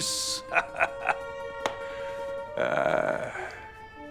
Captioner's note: laughing